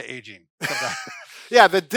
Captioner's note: laughs